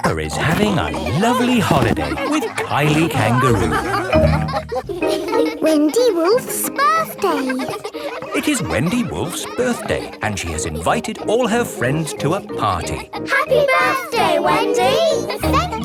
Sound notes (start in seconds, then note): 0.0 laughing; 4.1 all laughing; 8.2 kids laughing